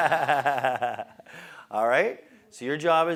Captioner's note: laugh